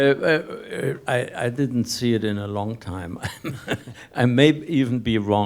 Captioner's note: laughs